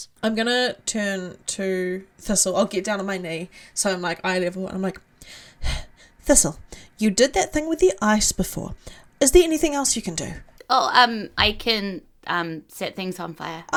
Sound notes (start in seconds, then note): 5.0 sigh